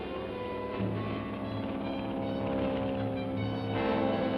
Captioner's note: airplane engine buzzing